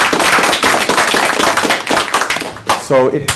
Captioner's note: applause